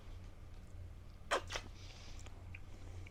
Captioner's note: slurping noise